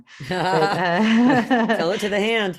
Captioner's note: chuckles